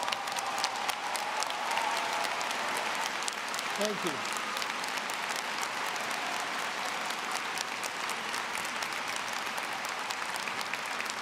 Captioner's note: applause